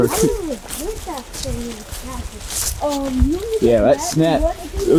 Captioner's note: boy speaking faintly in background